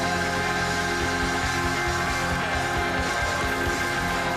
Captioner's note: cheers and applause